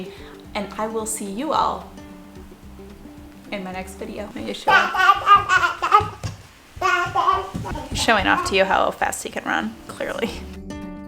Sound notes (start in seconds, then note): 6.8 babbles